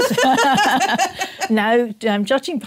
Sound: laughter

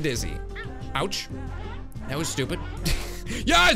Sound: laughs

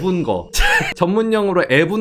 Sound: laughing

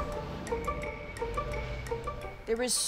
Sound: yelling

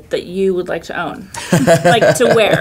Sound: laughing

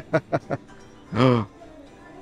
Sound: gasp

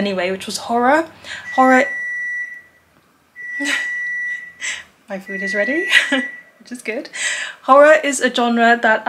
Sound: beeping noise

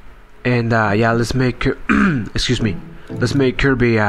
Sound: ehem

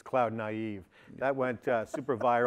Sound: laughter

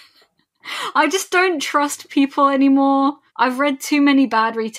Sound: laughs

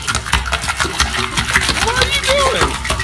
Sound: slapping

